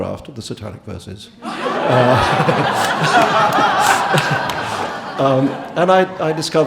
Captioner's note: audience laughing and clapping